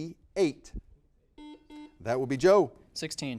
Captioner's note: buzzer beeping